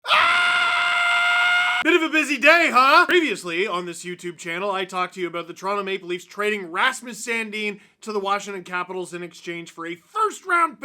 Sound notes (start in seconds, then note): 0.0 screaming